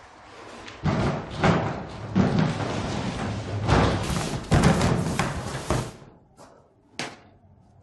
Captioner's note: shuffling